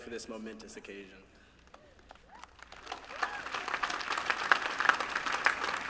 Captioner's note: applause